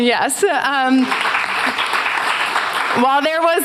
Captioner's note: applause